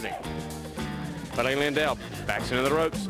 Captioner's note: crowd chatter